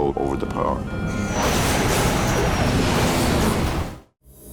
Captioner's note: plane crashes